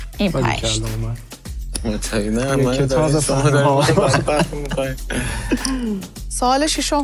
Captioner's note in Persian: خنده